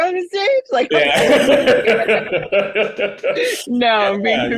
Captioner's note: laughing